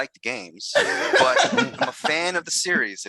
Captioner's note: laughing